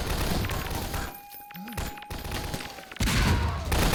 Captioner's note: gunfight sounds; alarm blaring; grenade explosion & scream